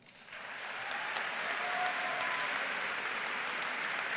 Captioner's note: audience applause